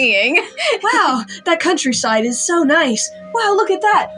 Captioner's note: giggle